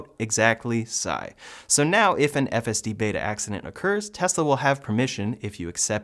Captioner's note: sigh